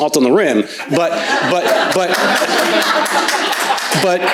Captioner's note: crowd laughs